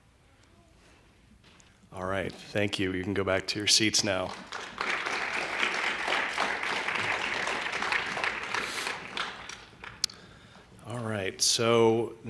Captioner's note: applause